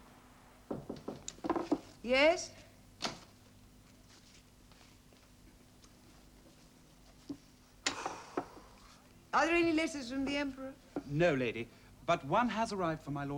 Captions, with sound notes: (KNOCKING) Yes. Are there letters from the Emperor? No, Lady, but one has arrived for my lord Marcellus.